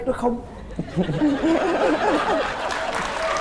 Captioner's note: laughing